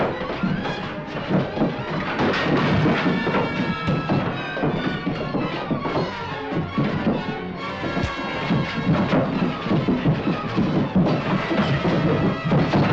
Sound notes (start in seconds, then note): 1.7 crash; 5.1 tense music